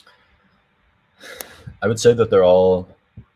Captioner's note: sighs